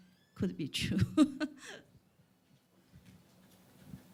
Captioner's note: laughs